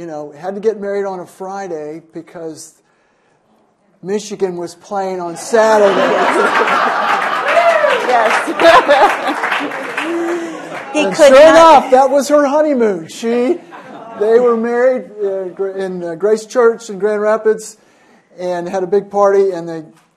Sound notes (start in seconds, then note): 13.6 laughter